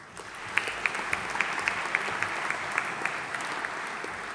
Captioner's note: audience applauding